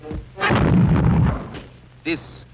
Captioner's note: explosion booms